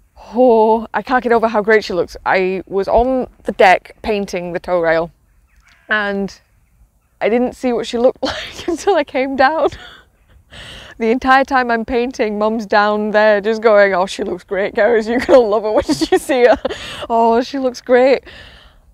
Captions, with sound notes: I can't get over how great she looks. I was on the deck painting the toerail, and I didn't see what she looked like until I came down. [Laughs] The entire time I'm painting, Mum's down below just going, "oh, she looks great Cerys, you'll love her when you see her", "oh, she looks great!" [Laughs]